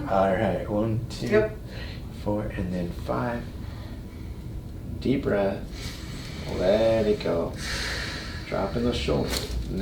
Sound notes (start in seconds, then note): 7.5 patient inhales; 7.5 patient exhales; 9.1 spine cracks